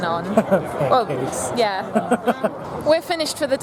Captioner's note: laughs